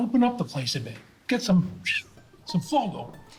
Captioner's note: whistles